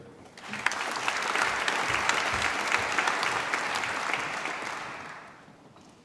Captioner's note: applause